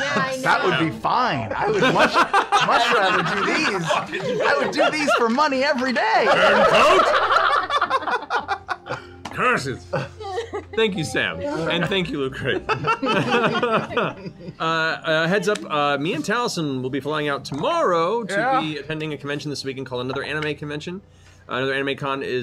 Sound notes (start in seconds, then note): 6.1 laughter